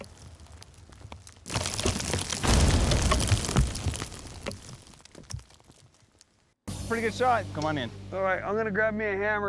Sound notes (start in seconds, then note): 0.0 explosion; 2.0 rocks falling